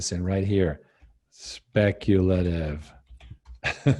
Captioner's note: chuckles